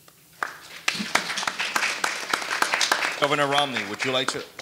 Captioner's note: audience applauding